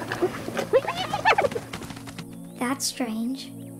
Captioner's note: Whining